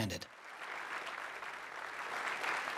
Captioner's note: applause